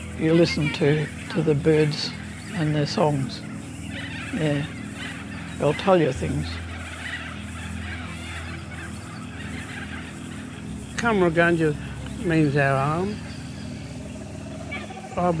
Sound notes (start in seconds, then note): 7.2 birds chirping